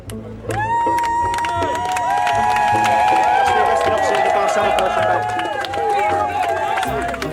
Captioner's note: cheering